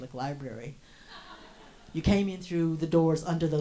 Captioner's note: audience laughs